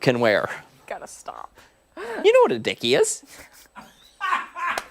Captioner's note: laughter